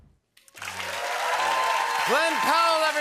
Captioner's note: cheers and applause